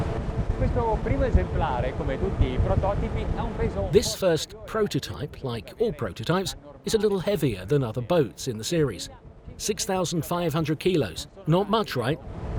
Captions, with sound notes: (speaks Italian) This first prototype, like all prototypes, is a little heavier than other boats in the series. 6500 kilos, not much right?